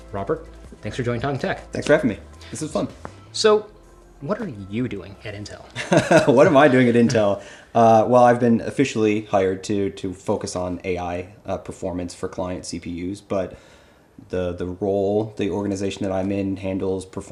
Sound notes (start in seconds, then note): 5.8 chuckles